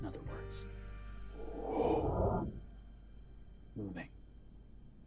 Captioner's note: imitates whooshing